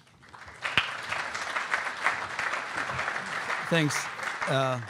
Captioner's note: audience applaud